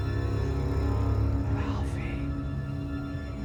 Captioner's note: whispering